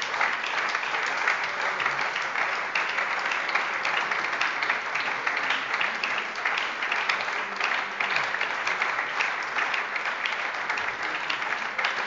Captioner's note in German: Lebhafter Beifall bei der SPD und der LINKEN – Beifall bei Abgeordneten der CDU